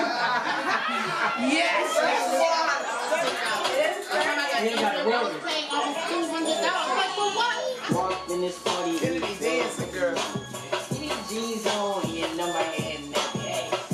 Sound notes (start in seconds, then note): 0.0 laughing; 4.4 chattering, music playing on speakers